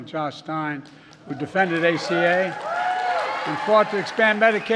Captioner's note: applause